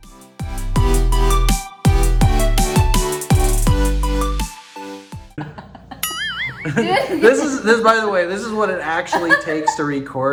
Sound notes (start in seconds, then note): 5.4 laughing; 6.0 bell ring